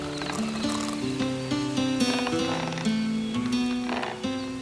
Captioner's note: rope creaks